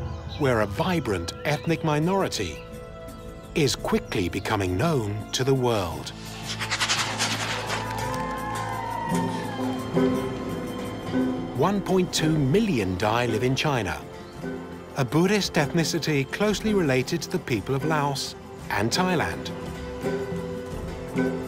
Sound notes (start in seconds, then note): 8.5 crowd cheering